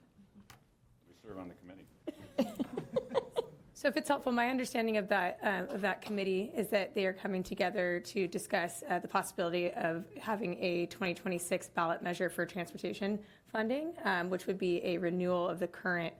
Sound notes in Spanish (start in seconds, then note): 2.1 Algunas risas